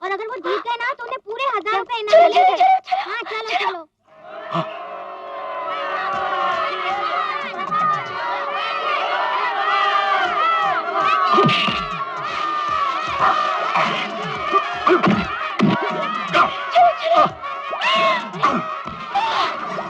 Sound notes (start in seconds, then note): 7.7 crowd cheering